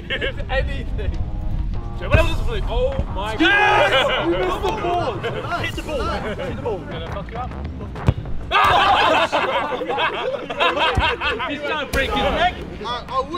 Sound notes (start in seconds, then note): 4.0 cheering; 8.6 laughter